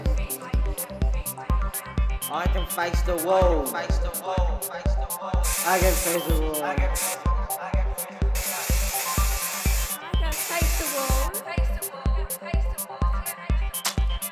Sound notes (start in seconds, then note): 8.3 spray can spraying